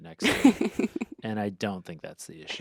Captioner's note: laughs